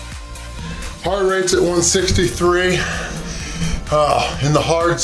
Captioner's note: grunts